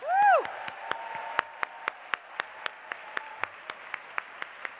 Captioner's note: applause